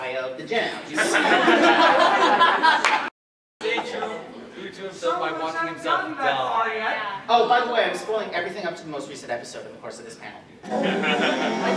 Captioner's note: laughter, crosschatter